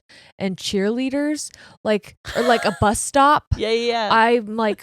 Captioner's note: laughing